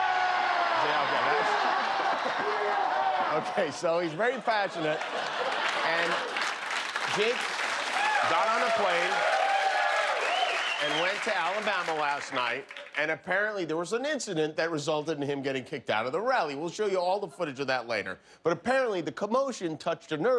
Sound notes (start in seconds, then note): 7.3 applause; 12.1 cheers and applause